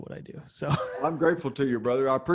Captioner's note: laughs